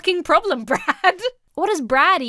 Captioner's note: laughs